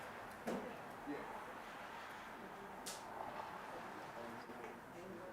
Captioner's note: participants chattering